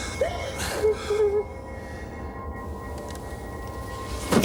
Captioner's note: Jodie sobbing